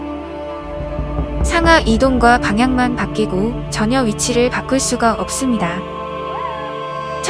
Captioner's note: throttle